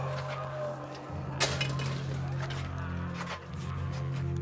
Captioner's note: gate clanking